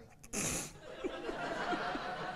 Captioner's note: laughs; crowd laughs